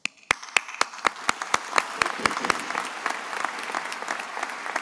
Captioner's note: attendees applauding